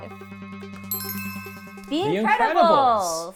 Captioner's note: bell chiming